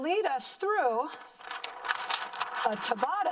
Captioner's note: paper crinkling